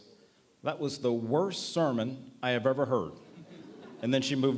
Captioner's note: laughter